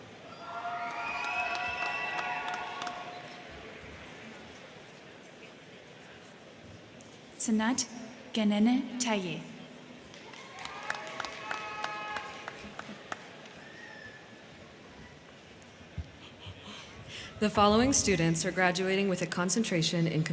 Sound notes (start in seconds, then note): 0.2 crowd cheering; 0.6 crowd clapping; 10.0 crowd clapping; 10.1 crowd cheering